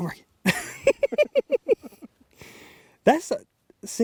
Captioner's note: both laughing